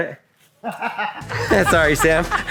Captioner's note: brother-in-law laughing